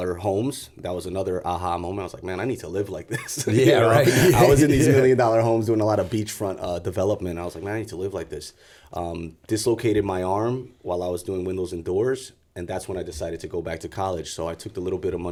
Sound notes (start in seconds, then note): 3.1 chuckle